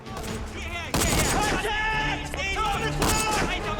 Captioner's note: gunfire; shouting